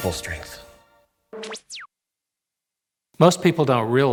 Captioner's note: electrical whining